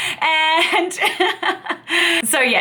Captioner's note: laughing